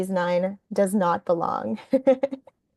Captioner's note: laughing